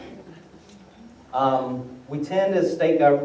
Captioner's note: laughter